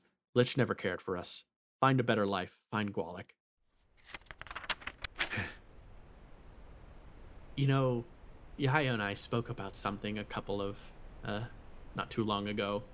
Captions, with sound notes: The lich never cared for us Find a better life find gwalik. [Sigh] You know Yaiyo and I spoke about something a couple of Not too long ago